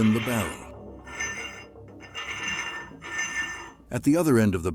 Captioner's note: metal sliding back and forth